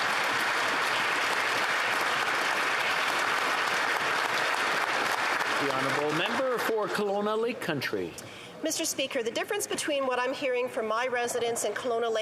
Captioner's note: applause